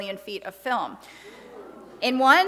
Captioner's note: audience exclaims